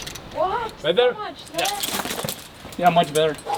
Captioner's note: harness rattling